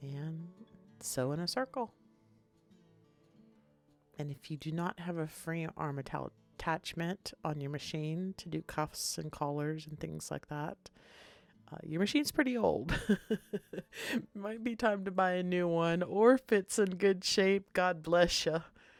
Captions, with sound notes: And sew in a circle. And if you do not have a frame arm metallic attachment on your machine to do cuffs and collars and things like that, your machine is pretty old (laughs). It might be time to buy a new one. Or if it's in good shape, God bless you.